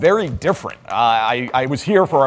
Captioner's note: audience clapping